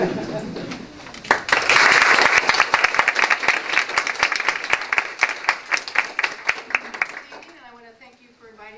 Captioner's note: applause